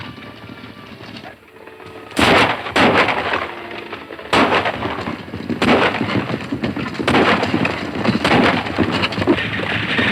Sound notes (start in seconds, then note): 1.5 firing guns; 2.2 galloping hooves